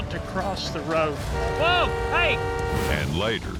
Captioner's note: car horns honking